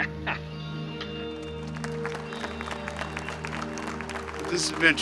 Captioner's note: chuckling; audience applauding